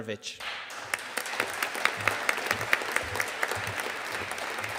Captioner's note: audience applauding